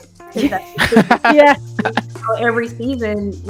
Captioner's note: laughs